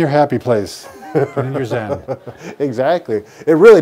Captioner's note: laughuing